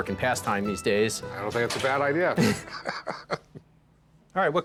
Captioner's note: laughs